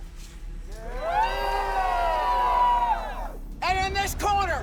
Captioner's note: crowd cheers